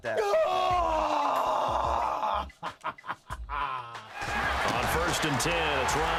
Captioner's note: Kingston shouts